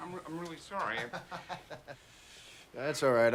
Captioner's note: chuckles